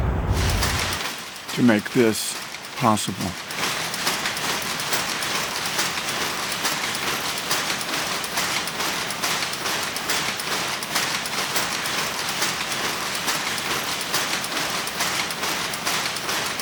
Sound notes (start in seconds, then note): 4.0 loud sounds of weaving machinery